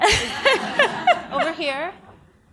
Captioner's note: audience laughs